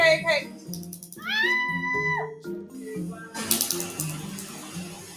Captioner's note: screaming in pain; pulsating crackling sound